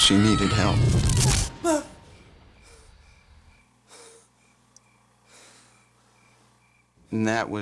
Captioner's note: gasps